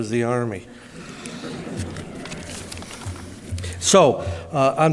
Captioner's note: audience laughing